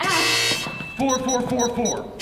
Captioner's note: incorrect passcode buzz